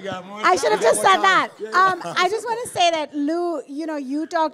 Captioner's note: audience laughs